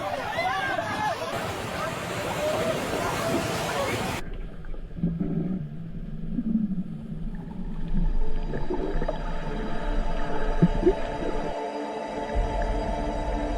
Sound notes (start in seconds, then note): 5.1 bubbles tinkling; 9.9 bright ethereal music